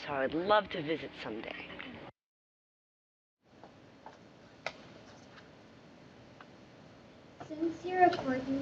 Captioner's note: silence